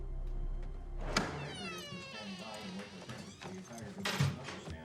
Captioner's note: dramatic music; door creaking; keys clattering